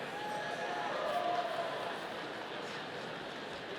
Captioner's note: audience cheering